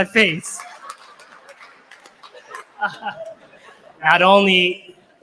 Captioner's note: laughter and applause